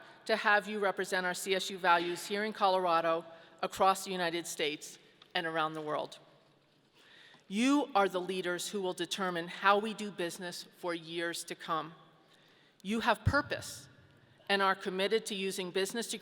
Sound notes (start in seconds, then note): none